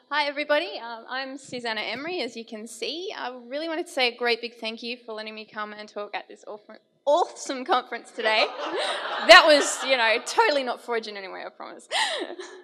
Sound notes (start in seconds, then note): 8.2 audience laughing; 11.9 laughs